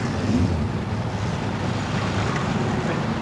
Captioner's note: none